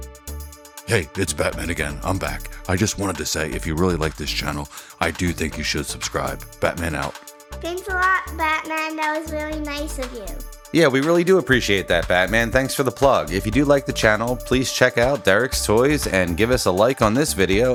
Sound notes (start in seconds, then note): 0.8 Deep Batman voice; 6.8 Deep Batman voice